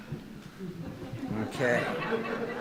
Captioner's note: audience laughing